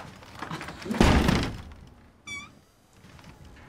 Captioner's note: door clanks